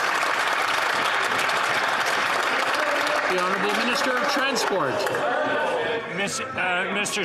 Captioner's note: some Applause